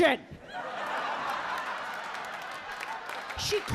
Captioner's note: audience laughing